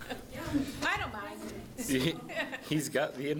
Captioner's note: laughing